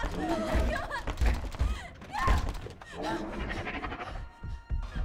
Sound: Jocelyn screams; dinosaur growls

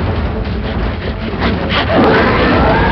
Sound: panting

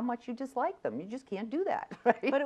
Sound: laughs

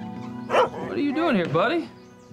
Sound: Dancer barks

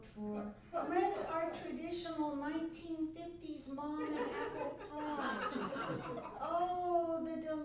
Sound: laughter

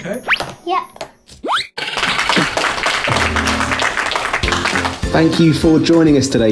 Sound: dramatic music; audience applauding

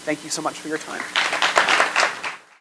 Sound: applause

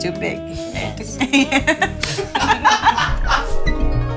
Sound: laugh

